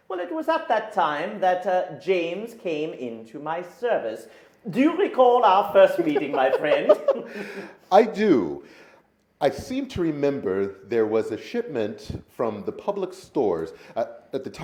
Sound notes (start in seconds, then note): 5.8 men laughing